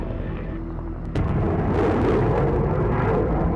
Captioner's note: explosion